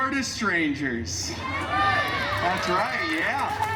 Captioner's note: guests cheering